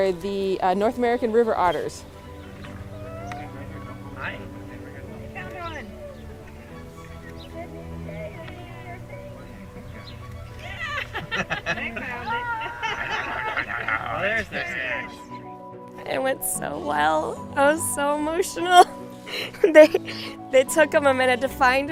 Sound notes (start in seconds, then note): 5.8 cheers